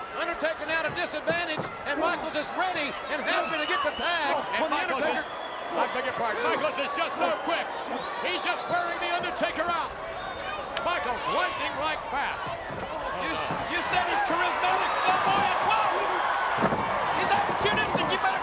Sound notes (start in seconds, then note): 15.8 audience cheering